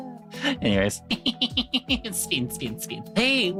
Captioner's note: laughing